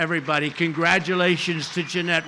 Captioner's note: applause